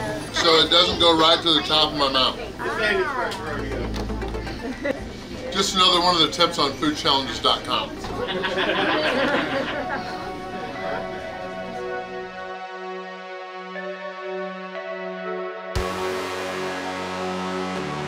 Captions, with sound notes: So it doesn't go right to the top of my mouth. just another one of the tips on foodchallenges.com. [Hahahaha]